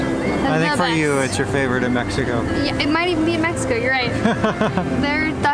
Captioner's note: laughter